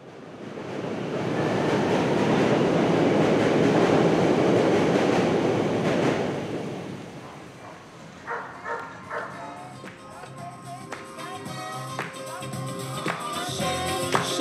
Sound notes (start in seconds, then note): 8.2 dog barking